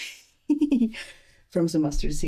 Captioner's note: laughs